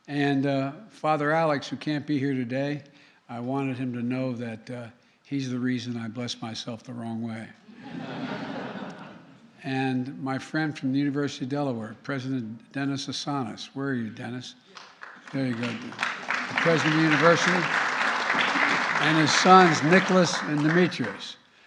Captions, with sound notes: And Father Alex, who can't be here today -- I wanted him to know that he's the reason I bless myself the wrong way. (Laughter.) And my friend from the University of Delaware, President Dennis Assanis. Where are you, Dennis? There you go. (Applause.) The President of the university and his sons, Nicholas and Dimitris.